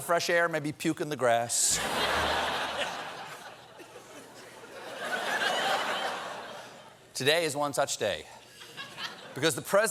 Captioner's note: laughter